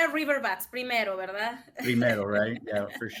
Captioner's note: speaks in Spanish